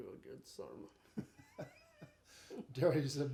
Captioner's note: chuckling